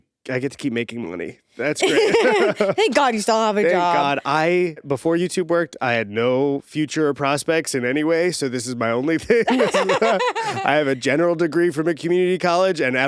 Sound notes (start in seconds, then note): 1.8 laughing; 9.3 both laughing